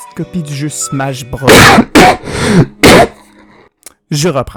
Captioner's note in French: tousse tousse